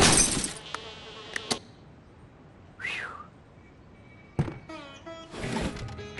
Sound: fly buzzing; crash; thump; fly buzzing; smash

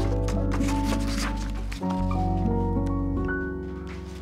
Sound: pages flick

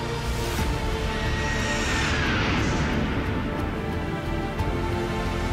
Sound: jet engine roaring

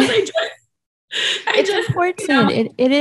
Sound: speaker laughing

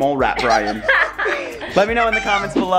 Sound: laughing loudly

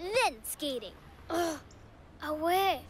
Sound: groans

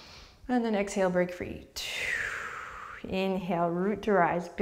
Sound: deep breath

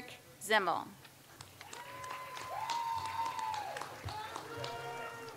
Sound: audience applauds

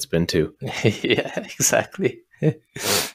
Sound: chuckles

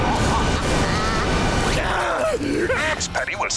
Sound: laughing; shrieking

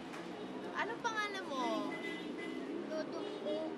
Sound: none

